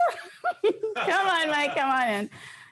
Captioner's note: laughs